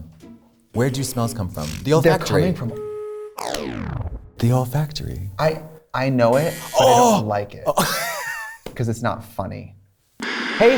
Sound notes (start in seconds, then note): 7.6 Katya laughs